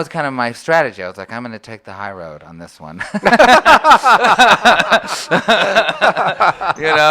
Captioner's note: both laugh